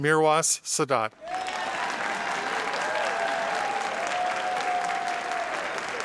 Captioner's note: audience applauding